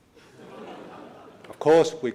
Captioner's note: laughing